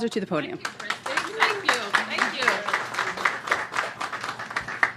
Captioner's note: applause